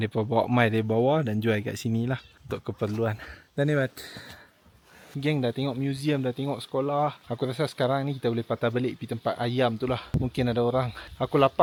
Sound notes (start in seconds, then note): 3.9 speaking Nepali